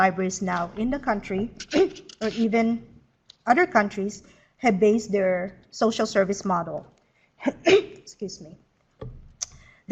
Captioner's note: clears throat; sneezes